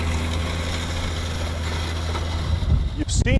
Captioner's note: background machinery sounds, mike wind effects